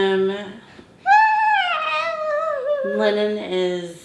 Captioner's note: coos